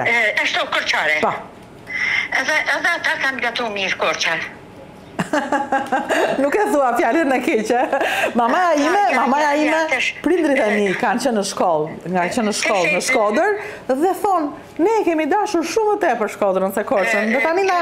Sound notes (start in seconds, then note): 5.2 laughs